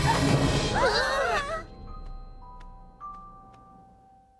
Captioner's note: all gasp